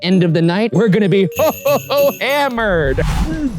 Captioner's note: laughs